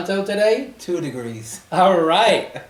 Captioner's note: laughs